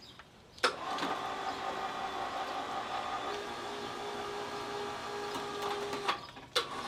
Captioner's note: clicking sound; low whirring sound